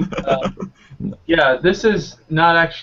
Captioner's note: laughing